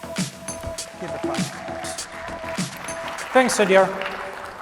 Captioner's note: applause